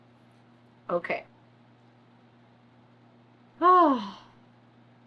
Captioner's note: sighs